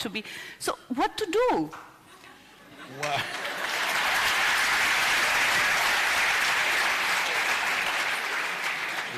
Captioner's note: applause